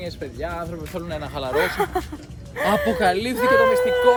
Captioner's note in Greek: γέλια